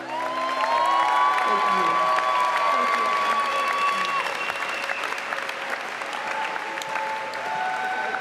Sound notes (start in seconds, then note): 3.4 applause